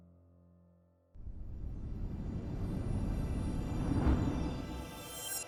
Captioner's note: star humming and whooshing